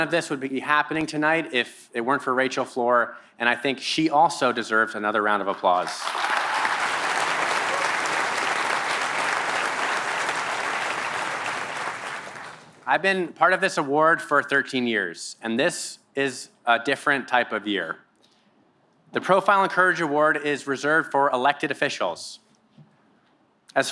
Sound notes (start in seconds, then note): 5.5 applause